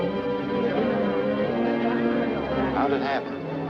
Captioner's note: people chattering